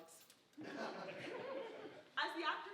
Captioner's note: audience laughing